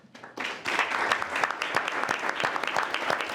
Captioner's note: all clapping